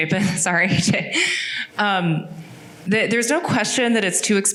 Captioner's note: laughing